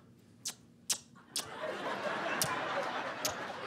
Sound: smooching; laughter

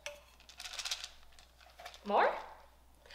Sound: Cheerios rattle

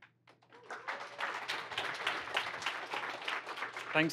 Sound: applause

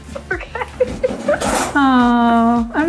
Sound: laughing

